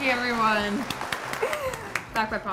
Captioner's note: claps